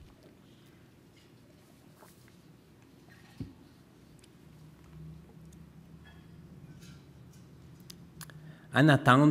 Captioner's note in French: silence